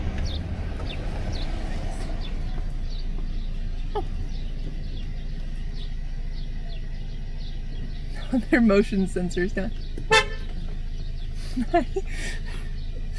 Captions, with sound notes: [laughing] Their motion sensor is down. [honk] Hi!